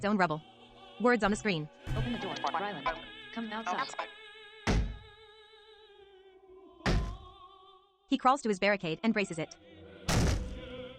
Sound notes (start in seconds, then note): 4.7 smashing on door